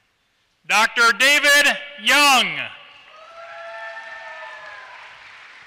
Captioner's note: applause